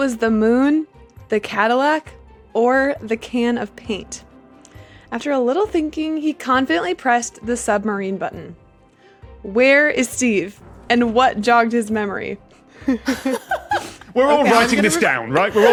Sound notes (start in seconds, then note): 12.8 giggle; 15.4 guests giggling